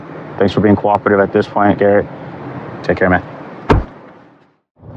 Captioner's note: none